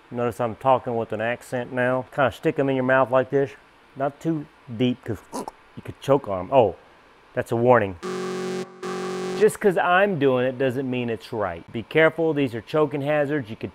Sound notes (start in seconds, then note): 5.1 choking; 8.0 alarm buzzing